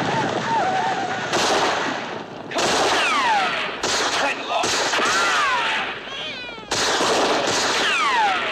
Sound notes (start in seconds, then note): 5.9 baby crying